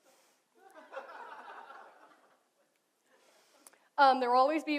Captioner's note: audience laughs